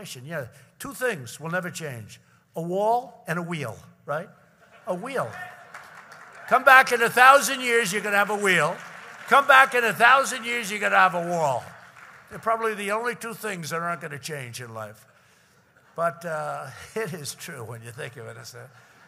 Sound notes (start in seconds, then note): 5.1 applause